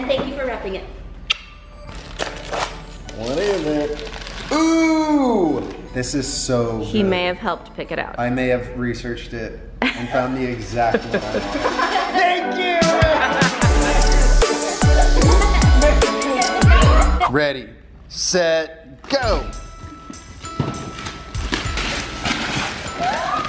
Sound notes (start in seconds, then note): 1.6 christmas music playing; 12.8 everyone laughs; 13.5 upbeat music playing; 19.1 christmas music playing